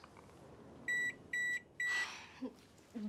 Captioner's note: oven beeping